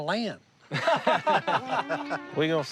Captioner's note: laughter